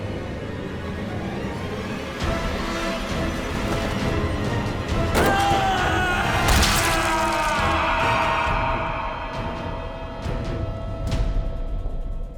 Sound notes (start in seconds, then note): 5.1 screams; 6.6 scream echoes